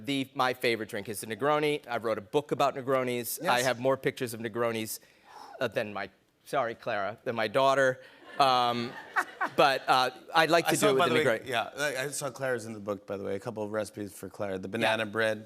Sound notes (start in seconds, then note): 8.2 laughter